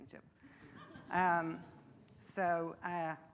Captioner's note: audience laughing